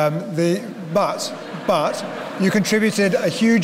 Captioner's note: laughter